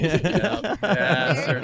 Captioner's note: laughs